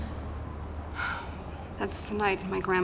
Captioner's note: sighs